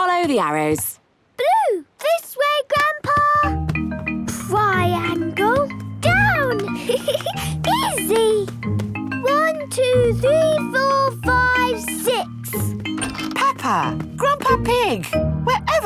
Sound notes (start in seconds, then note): 6.6 giggling